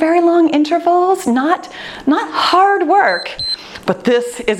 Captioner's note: timer beeps